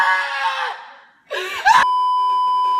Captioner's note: inhale #2; beeeeeeeeeeeep